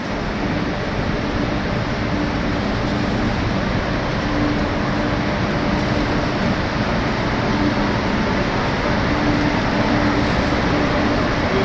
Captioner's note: humming electronically